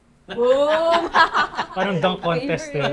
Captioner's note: laughs